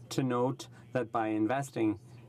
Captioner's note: speaking French